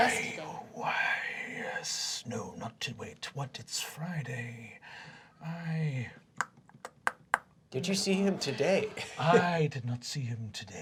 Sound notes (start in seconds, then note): 5.4 clicking